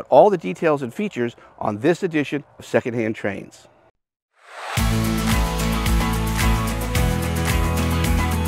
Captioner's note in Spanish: Aplausos